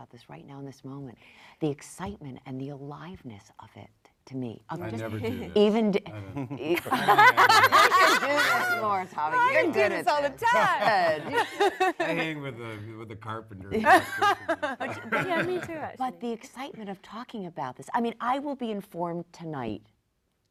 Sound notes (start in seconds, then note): 10.3 panel laughs